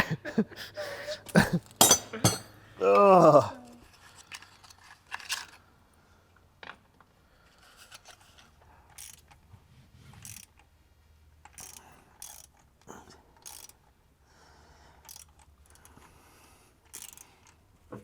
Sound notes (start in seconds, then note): 0.0 chuckles; 9.3 wrench turning